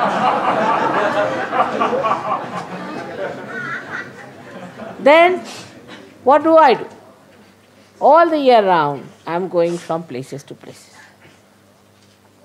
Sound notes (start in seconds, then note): 3.1 laughter